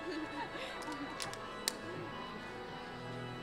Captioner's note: women laugh